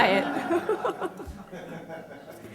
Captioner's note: laughter